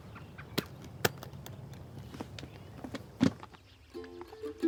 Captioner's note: case clicks; bright mandolin music begins